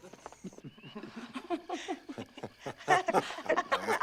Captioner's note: laughter